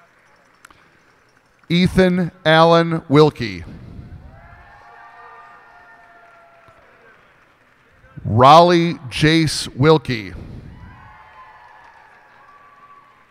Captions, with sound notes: Ethan Allen Wilke. [cheers and applause] Raleigh Jace Wilke. [cheers and applause]